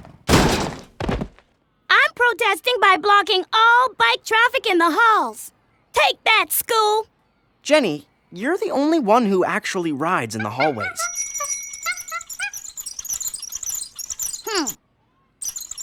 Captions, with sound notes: I'M PROTESTING BY BLOCKING ALL BIKE TRAFFIC IN THE HALLS. TAKE THAT, SCHOOL! JENNY, YOU'RE THE ONLY ONE WHO ACTUALLY RIDES IN THE HALLWAYS. (BELL DINGS, WHEELS SQUEAK) HMPH!